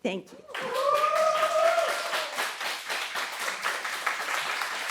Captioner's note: audience cheering